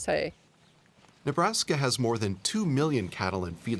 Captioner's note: voiceover